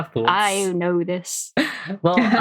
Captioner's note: laughs